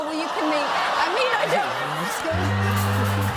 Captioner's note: audience ohhs